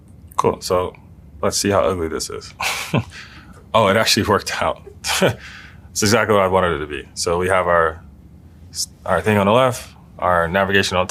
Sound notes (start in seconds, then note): 2.6 laugh